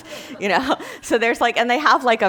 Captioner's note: class laughing